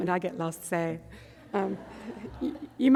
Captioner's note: audience laughter